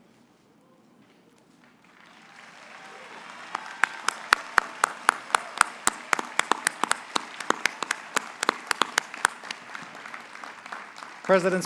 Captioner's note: applause